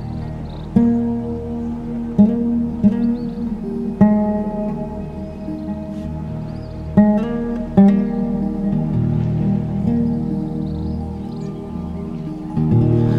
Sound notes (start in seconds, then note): 2.8 waves gently crashing